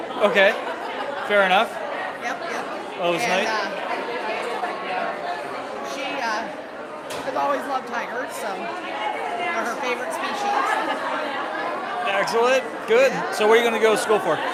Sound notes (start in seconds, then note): 4.0 chatter